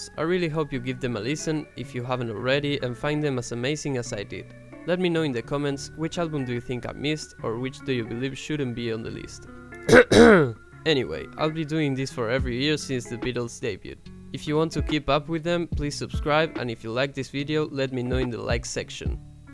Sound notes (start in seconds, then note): 9.9 grunts loudly in beatlemania